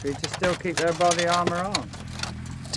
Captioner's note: none